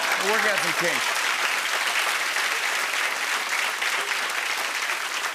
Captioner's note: applause